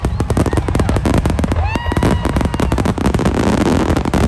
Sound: cheering

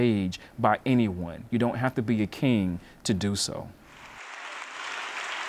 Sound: applause

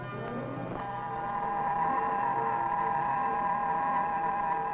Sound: electronic whirring

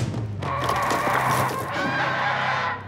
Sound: shrieks

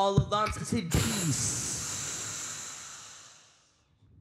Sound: all exhale heavily

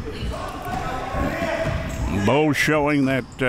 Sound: players yelling

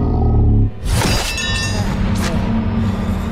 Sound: clanking

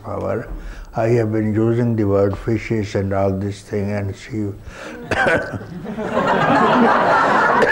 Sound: coughs

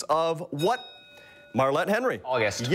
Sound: bell rings

